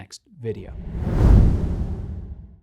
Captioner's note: text whooshing